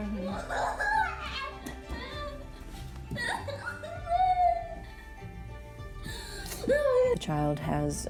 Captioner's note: sobbing